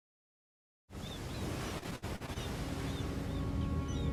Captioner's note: birds squawking; mellow music